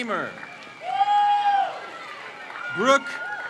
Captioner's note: crowd cheers